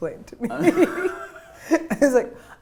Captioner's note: laughter